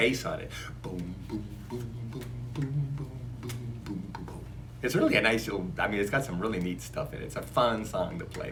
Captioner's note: bass impersonation